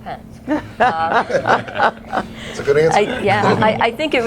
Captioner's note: laughter